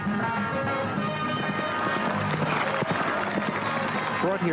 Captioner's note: horses clip-clopping